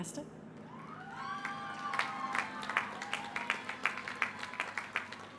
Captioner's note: applause